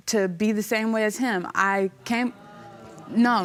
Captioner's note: audience murmuring